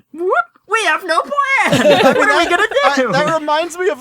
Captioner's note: laughs